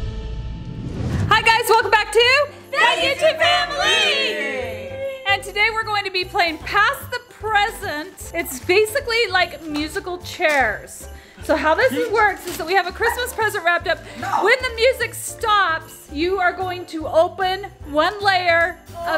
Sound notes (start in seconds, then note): 0.6 screen whooshing